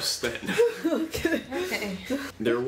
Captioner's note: sounds of relief